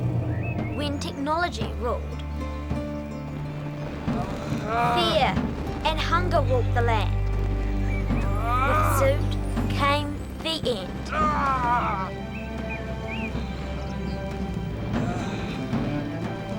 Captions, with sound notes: When technology ruled fear and hunger walked the land. (Zoot growling) With Zoot came the end. (Zoot growling) (drums pounding)